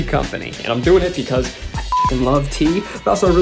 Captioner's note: beep